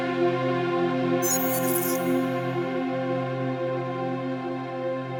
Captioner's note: electricity buzzes